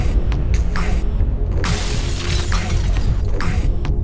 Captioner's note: glass crunching; dramatic music